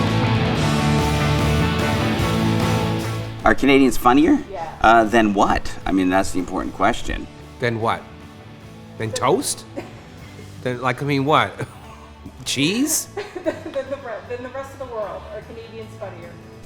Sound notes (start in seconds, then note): 0.2 upbeat music; 12.9 laughing